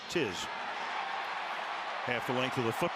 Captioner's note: cheering